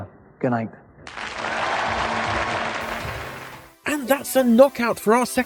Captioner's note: audince cheering